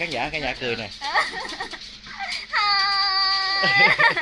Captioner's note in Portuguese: Tiếng cười